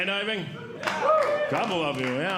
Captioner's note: audience Clapping